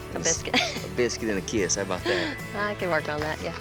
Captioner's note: chuckles